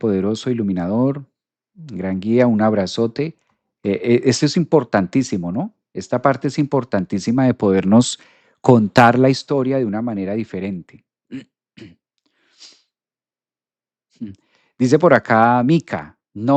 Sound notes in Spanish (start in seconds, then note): 11.3 carraspeo; 12.6 resoplido